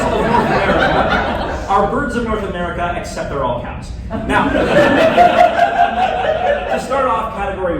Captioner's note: laughter; laughter